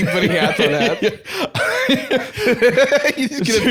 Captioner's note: laughs